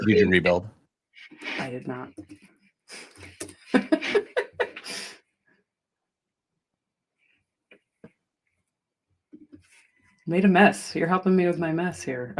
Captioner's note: laughter